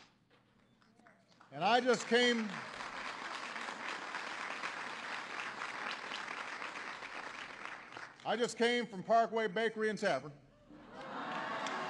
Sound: applause; applause

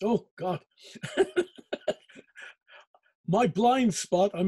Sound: laughing

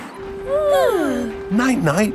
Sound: both yawning

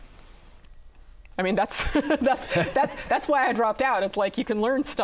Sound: laughing

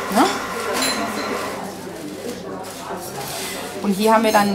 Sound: babble of voices

